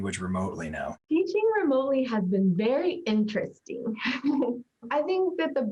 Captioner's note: laughs